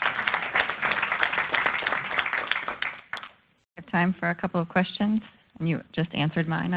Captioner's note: applause